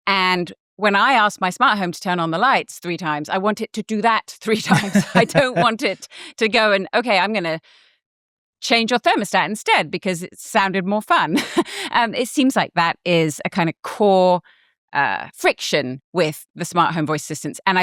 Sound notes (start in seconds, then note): 4.6 chuckles